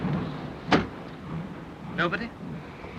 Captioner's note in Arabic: النافذة تغلق بقوة